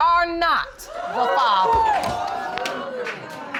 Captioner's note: audience exclaiming